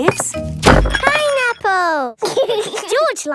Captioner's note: bangs; laughs